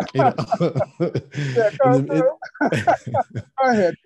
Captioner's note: laughing